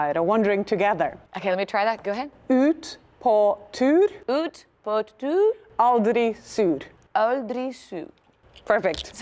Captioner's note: speaking Norwegian